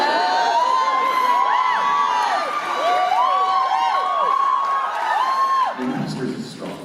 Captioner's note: laughter and cheers; cheers